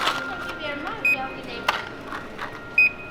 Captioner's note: scan beep